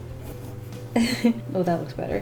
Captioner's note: chuckle